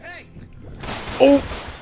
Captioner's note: Vulture gunshots